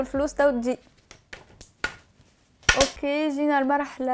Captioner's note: smacks